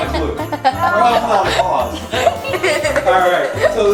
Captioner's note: giggles